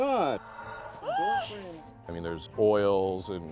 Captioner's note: gasps